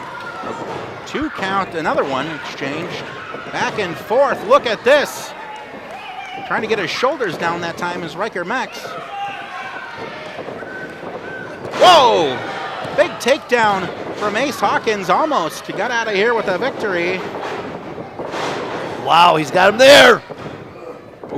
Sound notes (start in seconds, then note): 0.3 thudding; 8.4 audience shouts; 18.2 thudding